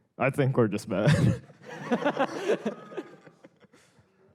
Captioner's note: laughter